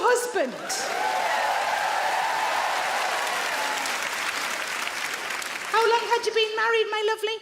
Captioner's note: audience clap; audience cheer